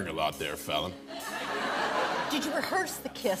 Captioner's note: laughter